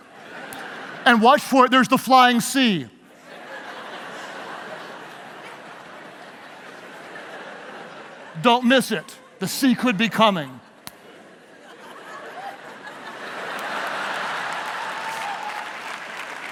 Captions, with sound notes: and watch for it, there's the flying sea. (laughing) Don't miss it, the sea could be coming. (audience applauding) (laughing)